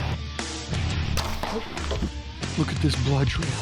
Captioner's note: arrow thuds